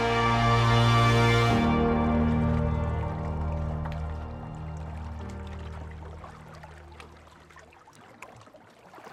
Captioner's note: music fades, water laps against the rocks